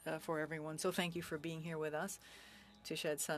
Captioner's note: speaking French